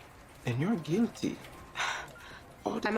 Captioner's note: scoffs